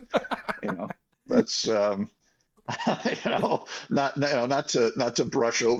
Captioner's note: laughing